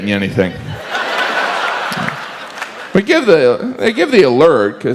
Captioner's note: audience laughs